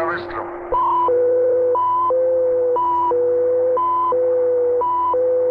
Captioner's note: soldier speaking in Russian; machinery beeping and whirring